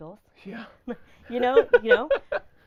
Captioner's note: laughing